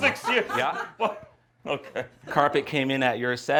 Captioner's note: laughing